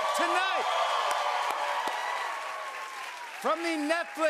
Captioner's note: cheers and applause